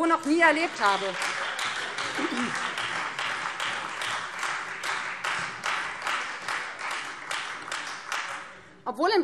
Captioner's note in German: Beifall Freie Demokraten und vereinzelt SPD